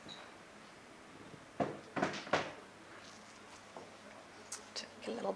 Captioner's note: items tap lightly